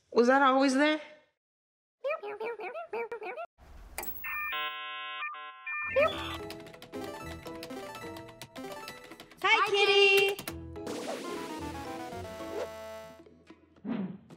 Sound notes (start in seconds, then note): 2.0 numbers dialing; 5.8 dial-up internet buzzing